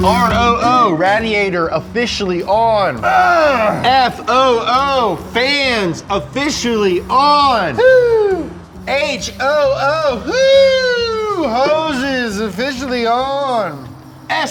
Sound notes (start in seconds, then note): 3.0 grunts; 7.4 cheers